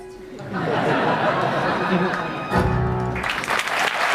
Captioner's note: audience laughing; audience applauding